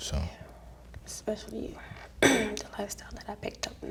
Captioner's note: clears throat